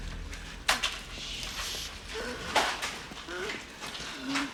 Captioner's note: Towers Gasping